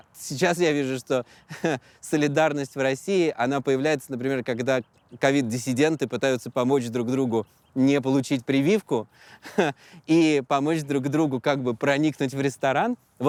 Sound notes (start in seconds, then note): 9.3 chuckles